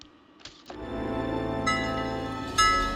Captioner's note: bell dings